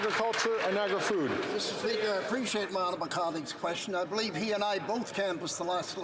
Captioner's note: some Applause